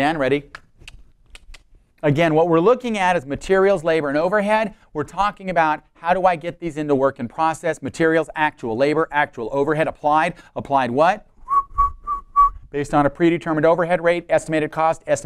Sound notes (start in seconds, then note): 1.3 clicking sound; 11.4 whistling